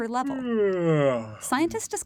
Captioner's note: yawn